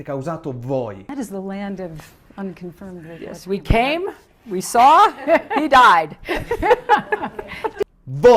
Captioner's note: laugh